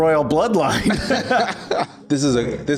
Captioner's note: laughs